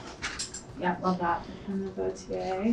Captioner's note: woman's Voice